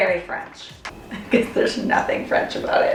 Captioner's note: laughing